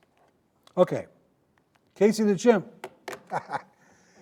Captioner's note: laughing